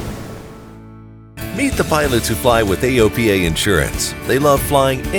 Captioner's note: voiceover